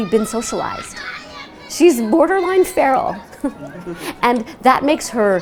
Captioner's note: laughs